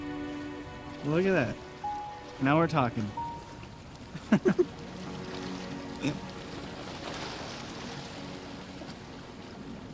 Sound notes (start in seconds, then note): 4.1 both laugh